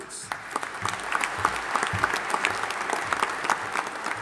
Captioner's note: audience applauding